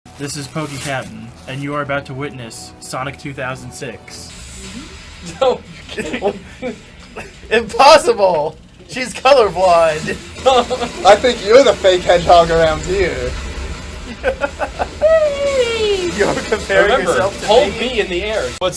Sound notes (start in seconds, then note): 14.0 chuckles; 15.0 someone else makes an eeeee noise